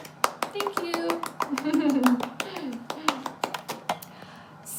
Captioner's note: claps